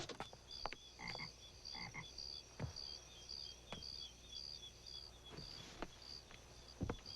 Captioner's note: crickets chirping; frogs croaking